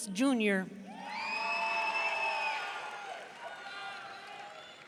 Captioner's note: audience cheering